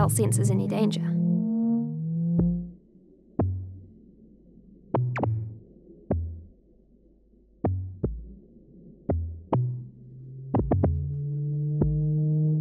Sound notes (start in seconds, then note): 2.7 electronic pulses